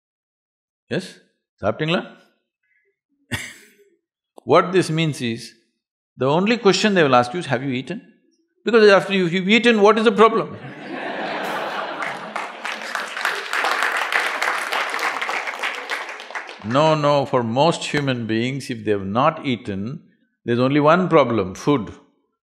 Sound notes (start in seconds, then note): 3.8 laughs; 10.6 laughter/Applause